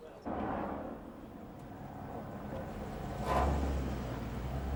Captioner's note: engine rumbling